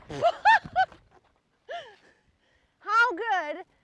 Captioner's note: laughs